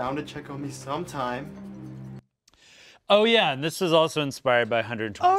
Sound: none

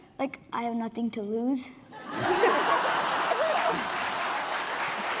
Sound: laughing; applause

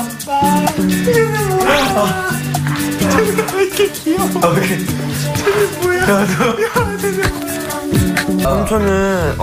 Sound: high pitched squealing while laughs at him

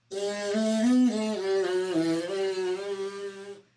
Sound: lips buzzing

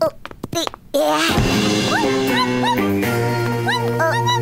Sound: balls falling; groaning; barking

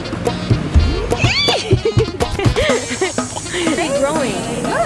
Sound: laughter

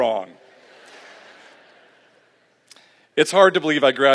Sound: laughter

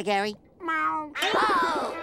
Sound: meowing; gasping

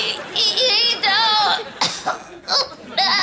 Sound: coughing

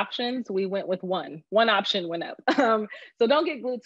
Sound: laughs

